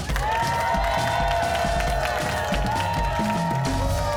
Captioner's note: cheers and applause